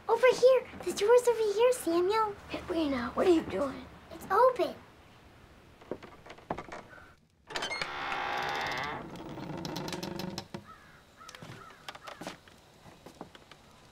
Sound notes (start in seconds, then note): 7.4 door creaking; 10.6 crows cawing